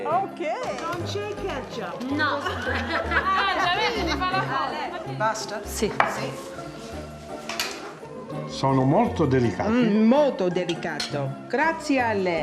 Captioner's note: speaking Italian